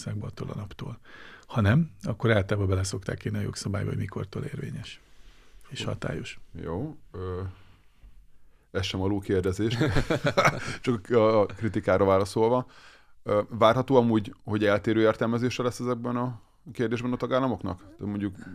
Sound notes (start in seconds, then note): 9.8 laughs